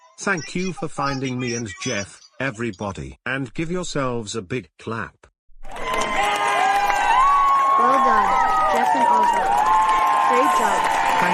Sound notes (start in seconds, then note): 5.6 all cheering